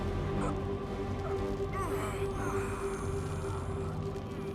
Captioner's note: Will groans